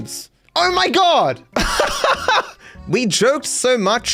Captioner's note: laughs